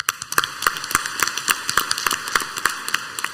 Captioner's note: clapping